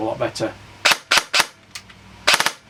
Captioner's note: airsoft Gun Burst Firing; airsoft Gun Single Shot